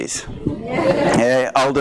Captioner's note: audience responds